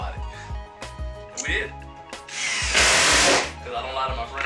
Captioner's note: drill whirring